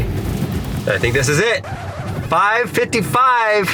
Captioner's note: record scratching